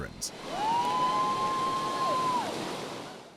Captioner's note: cheering